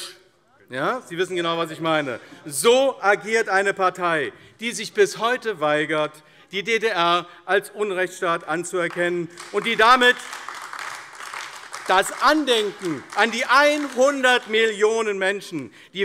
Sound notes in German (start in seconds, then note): 8.8 Beifall AfD